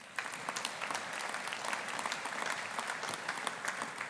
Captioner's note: audience applauding